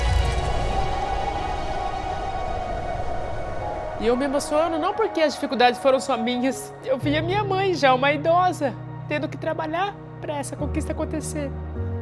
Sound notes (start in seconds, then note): 0.0 music stops; 0.0 wind blowing; 4.0 tearful voice